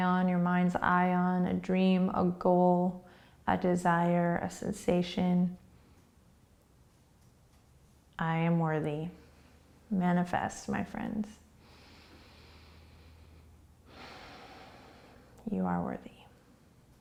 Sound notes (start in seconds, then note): 11.5 deep breathing